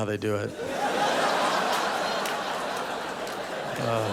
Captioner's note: audience laughing